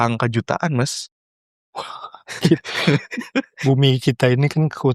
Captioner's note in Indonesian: tertawa